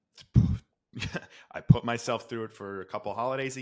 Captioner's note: laughs